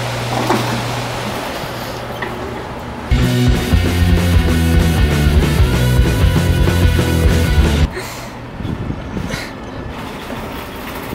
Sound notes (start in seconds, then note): 7.9 laughs